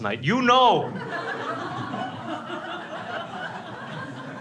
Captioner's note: crowd laughs